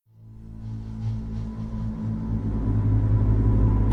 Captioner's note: low humming